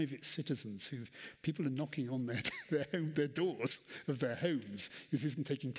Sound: laughs

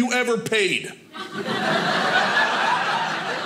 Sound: audience laughing

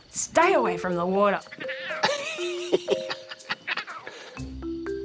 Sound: laughs

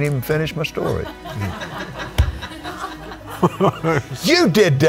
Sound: all laughing

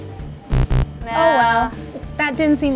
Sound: buzzing

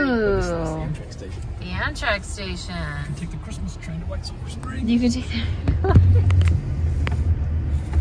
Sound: laughing

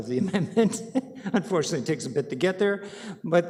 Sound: chuckling

